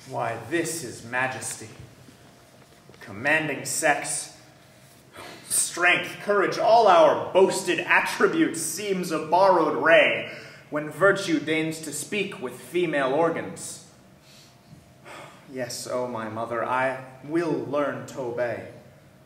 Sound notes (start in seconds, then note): none